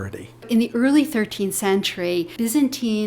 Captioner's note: voiceover